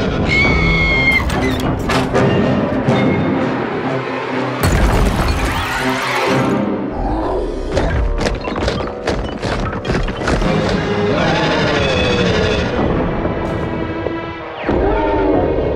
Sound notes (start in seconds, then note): 0.1 shaking and screaming sound; 6.6 roaring and chewing sounds; 11.1 roar